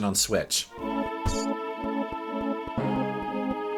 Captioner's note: game sounds